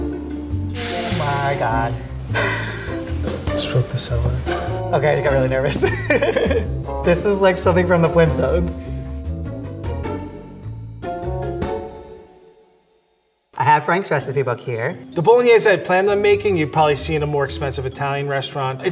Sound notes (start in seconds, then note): 5.8 laughs; 9.4 light music